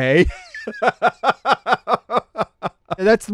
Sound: laughs

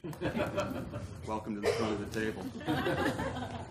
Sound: laugh

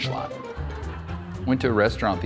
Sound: audience laughing

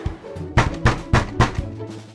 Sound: knocking on the door

